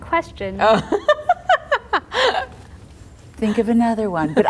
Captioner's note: laughter